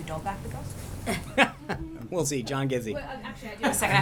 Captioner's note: laughter